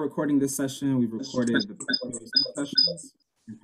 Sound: microphone feedback squealing

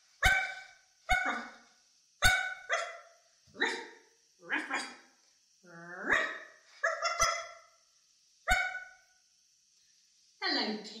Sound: Pickles barks

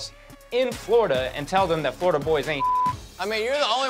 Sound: beep

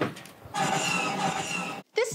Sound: gunfire

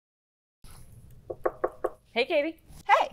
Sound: knocking on door

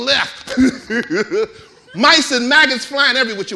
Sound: chuckling

